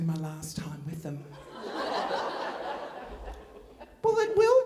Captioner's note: audience laughing